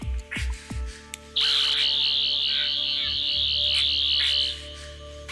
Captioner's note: cctv footage loop sounds; buzzing